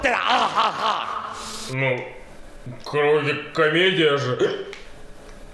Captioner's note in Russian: ик